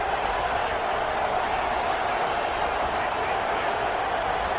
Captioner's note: crowd Noises